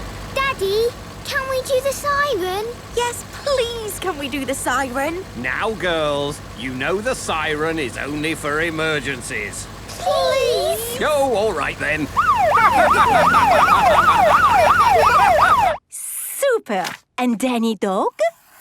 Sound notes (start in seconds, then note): 12.1 siren wailing; 14.1 laughing